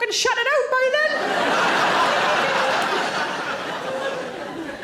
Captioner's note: audience laughing